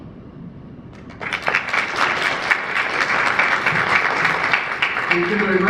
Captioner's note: applause